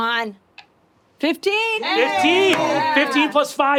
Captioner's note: players cheering